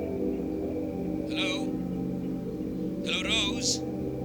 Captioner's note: Dr. Shah on phone